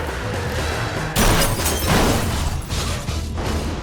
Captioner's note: impact